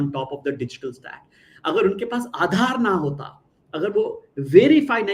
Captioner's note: non-english speech